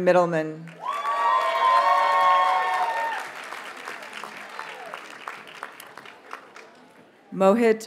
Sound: audience cheers and applauds

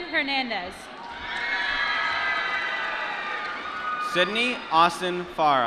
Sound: applause

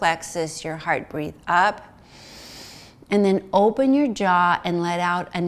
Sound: inhales

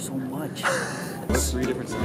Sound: wheeze

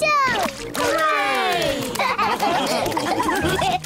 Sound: all laugh

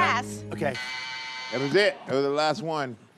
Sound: buzzer

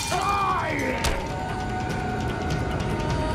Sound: yells

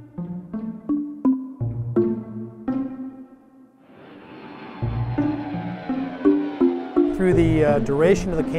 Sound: jet engine

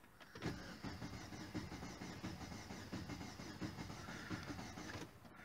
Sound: sound of engine cranking - see tachometer

